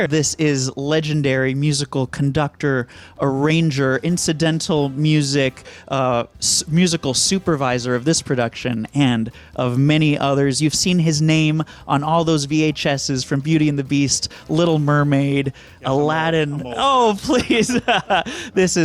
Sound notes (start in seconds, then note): 15.7 speaks faintly; 16.4 laughs